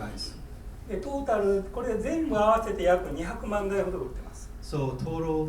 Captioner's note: speaking in foreign language